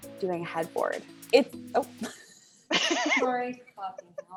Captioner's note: laughs